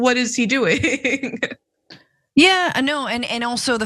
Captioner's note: laugh